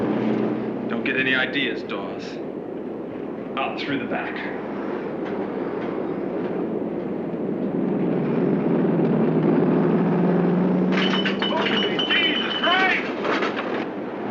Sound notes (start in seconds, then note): 4.7 trucks rumbling in distance; 11.5 man yelling